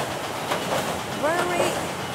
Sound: machine Running

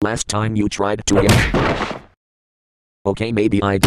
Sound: blow lands, thudding

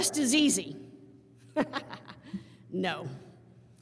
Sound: laughs

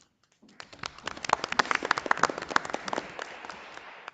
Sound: audience applauding

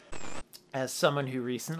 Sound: static

